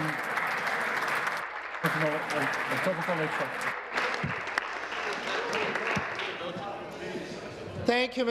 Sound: applause

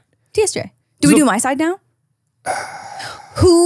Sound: sighing

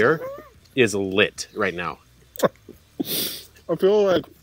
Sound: laughs

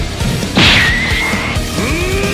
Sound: smassssh

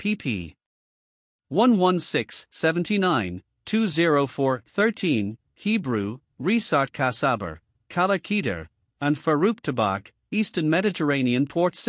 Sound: Hebrew

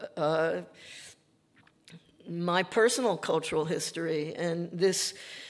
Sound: none

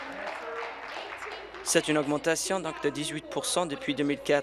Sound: applause

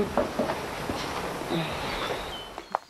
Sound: sighs in slow motion

